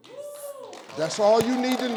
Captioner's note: crowd clapping